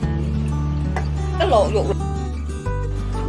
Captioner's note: boiling water